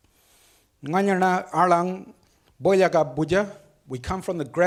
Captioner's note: speaks foreign language